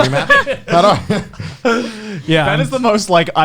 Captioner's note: laughs